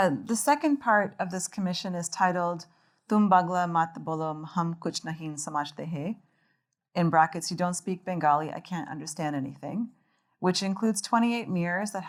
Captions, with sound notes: The second part of this commission is titled (speaking Bengali) in brackets, you don't speak Bengali, I can't understand anything, which includes 28 mirrors